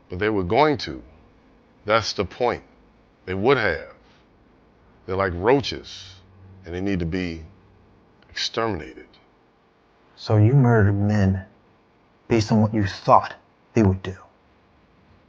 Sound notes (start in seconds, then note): none